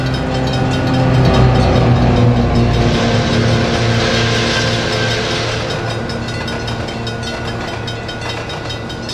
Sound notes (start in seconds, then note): 2.0 F7A diesel engine revving; 5.0 rapid clickety-clack sounds